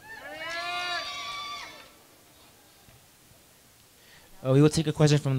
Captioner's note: crowd cheering